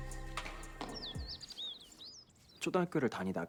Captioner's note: birds chirping